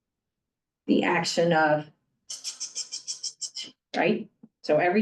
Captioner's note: mimics tilling noise